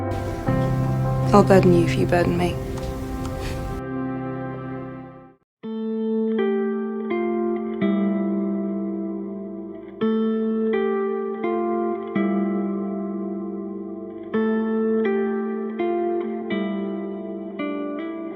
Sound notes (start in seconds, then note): 1.5 voiceover; 3.4 Max scoffs